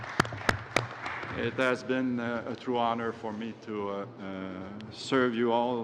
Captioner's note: applause